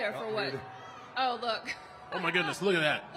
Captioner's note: laughing